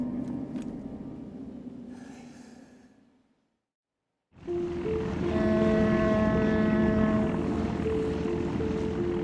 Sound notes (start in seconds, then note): 5.3 steamboat whistle blows